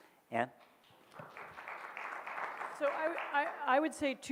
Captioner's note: audience claps